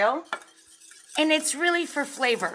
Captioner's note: mixture whisking